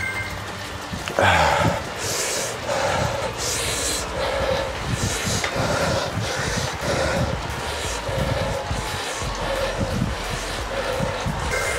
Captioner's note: grunting